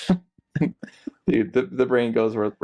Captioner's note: laughing